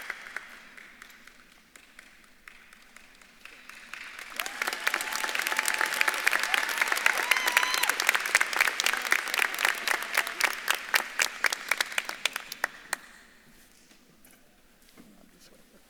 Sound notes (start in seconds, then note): 4.3 audience claps and cheers